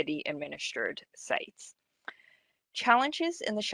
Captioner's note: audio drops